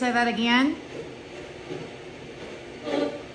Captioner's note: light machine noise